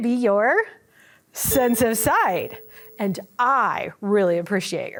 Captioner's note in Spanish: sonido de campana